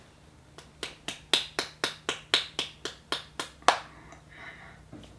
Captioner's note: clapping